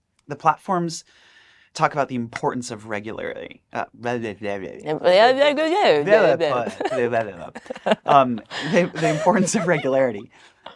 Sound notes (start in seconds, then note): 4.0 both mumbling; 6.0 laughs